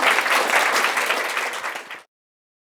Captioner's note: applause